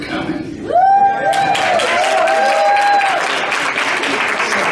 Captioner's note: crowd cheering